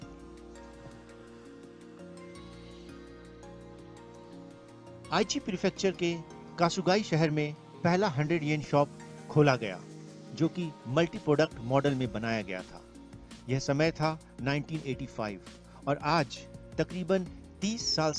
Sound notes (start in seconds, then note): 4.9 non-english speech